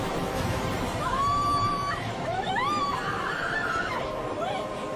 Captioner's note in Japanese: 悲鳴